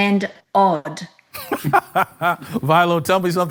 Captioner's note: laughs